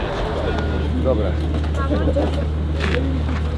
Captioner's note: distant conversations